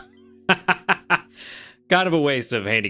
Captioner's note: laughs